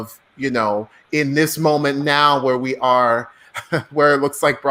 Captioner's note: laughs